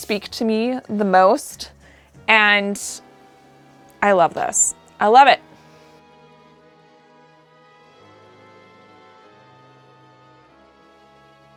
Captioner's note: blank Audio